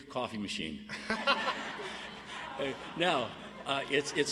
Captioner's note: audience laughs